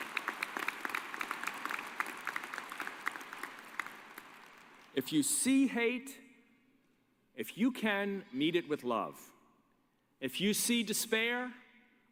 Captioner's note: applause